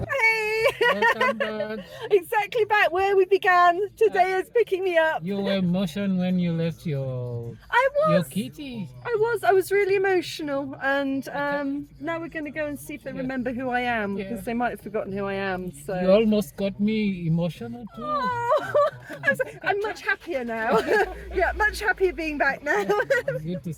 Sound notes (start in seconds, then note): 0.4 laughing; 18.0 laughing